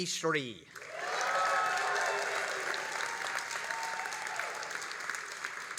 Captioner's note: all applauding and cheering